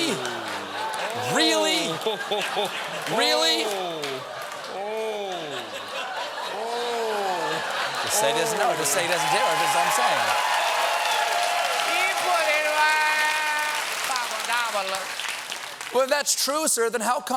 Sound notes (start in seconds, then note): 0.0 laughter; 5.2 laughter; 5.7 cheers and applause